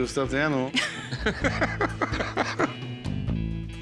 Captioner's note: laughter